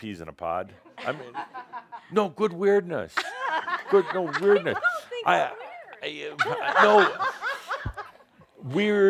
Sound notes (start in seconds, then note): 2.1 some chuckles; 3.1 they laugh; 6.4 more laughter